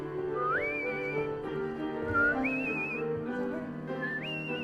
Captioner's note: light instrumental music; whistling in time with music